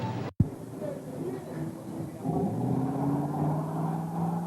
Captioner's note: car revving